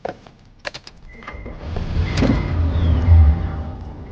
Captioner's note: car beeping